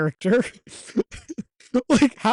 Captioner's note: giggling